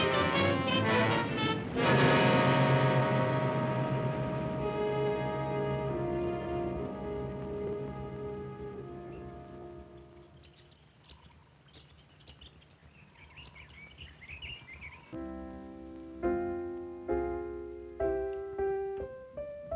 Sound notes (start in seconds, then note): 10.2 birds chirping; 15.1 piano plays